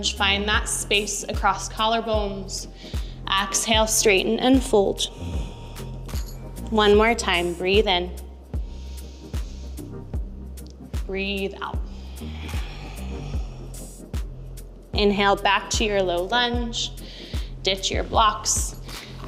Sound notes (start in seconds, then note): 9.3 inhaling; 11.8 exhaling